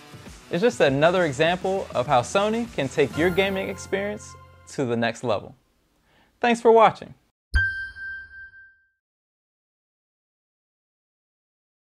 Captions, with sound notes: it's just another example of how Sony can take your gaming experience to the next level. Thanks for watching [Chime]